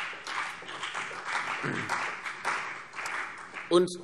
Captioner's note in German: Beifall CDU und BÜNDNIS 90/DIE GRÜNEN